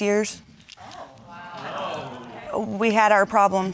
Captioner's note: audience exclaiming